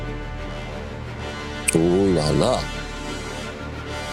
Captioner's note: sounds of being impressed